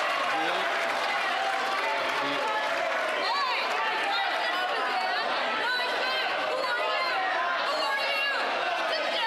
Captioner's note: applause